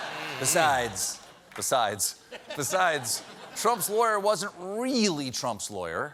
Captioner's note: laughter